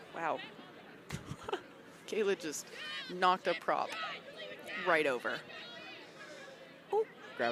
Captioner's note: chuckles